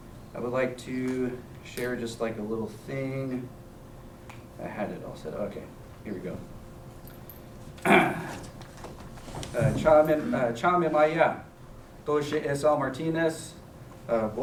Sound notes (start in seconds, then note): 7.8 clears throat; 10.0 non-english speech